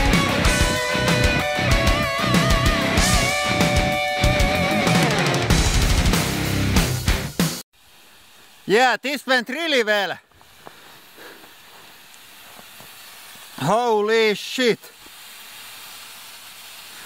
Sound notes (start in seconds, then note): 7.8 steam hissing